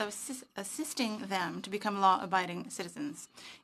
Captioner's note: speaking french